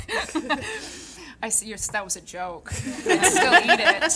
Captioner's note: audience laughing